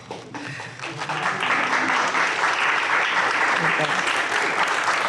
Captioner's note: audience applauds